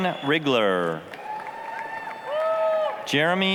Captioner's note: applause, cheering